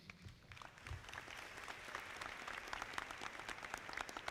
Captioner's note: audience clapping